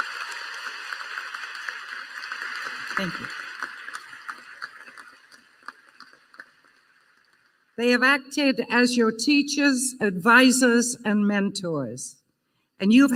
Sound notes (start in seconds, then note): 0.0 applause